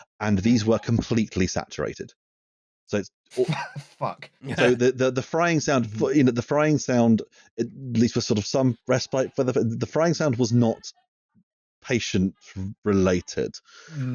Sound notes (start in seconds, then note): 3.4 laughing